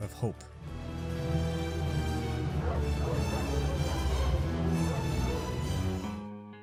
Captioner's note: barking sounds